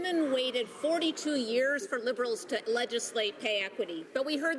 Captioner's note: none